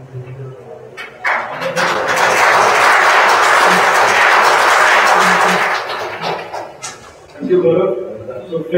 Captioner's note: applause